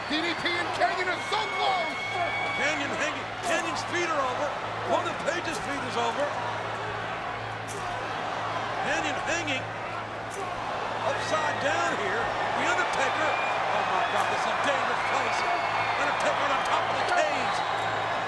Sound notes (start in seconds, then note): 2.1 presenter speaking faintly off mic